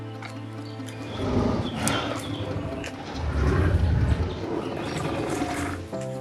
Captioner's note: creature growling